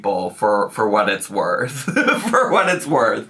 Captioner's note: laughs